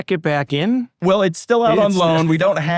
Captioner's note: laughs